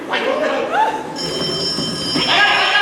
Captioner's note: phone rings